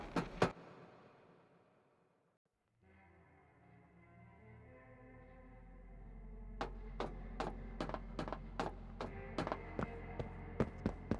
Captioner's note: footsteps